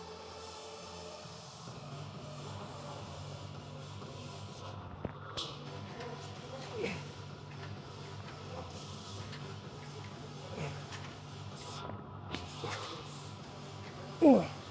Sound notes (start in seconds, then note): 1.0 groans